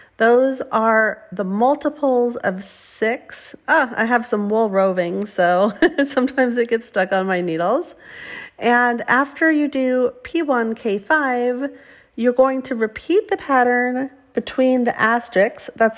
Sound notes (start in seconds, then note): 5.7 chuckles